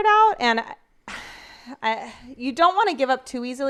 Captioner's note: sighs